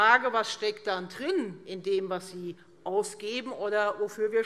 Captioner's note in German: none